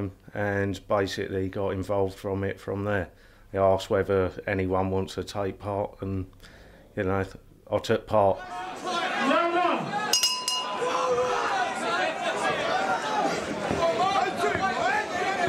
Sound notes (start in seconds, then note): 10.1 bell rings; 11.2 crowd shouting